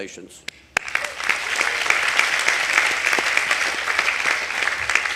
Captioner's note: audience applauding